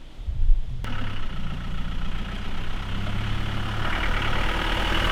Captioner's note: loud engine